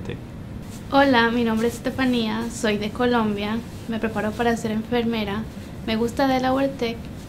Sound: in Spanish

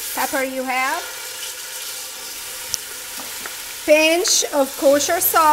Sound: pan sizzling

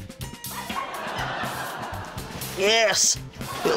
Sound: laughter

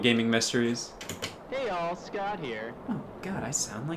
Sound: Scott on tape player

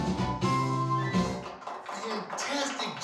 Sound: applause

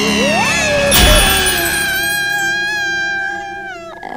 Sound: screaming

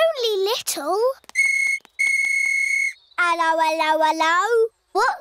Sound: blows whistle

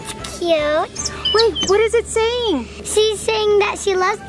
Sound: bird tweeting

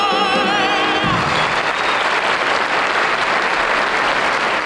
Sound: audience applauding

